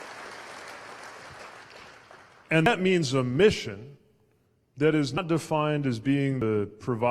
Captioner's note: cheers/applause